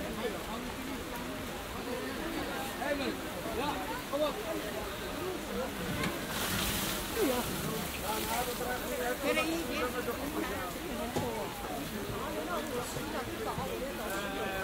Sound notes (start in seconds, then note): none